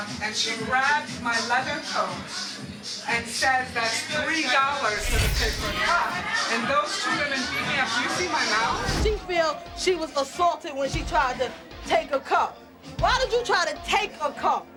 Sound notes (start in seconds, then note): none